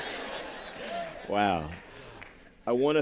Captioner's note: laughter